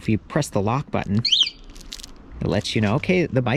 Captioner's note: alarm whistling